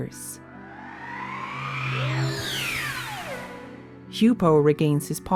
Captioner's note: implosion sound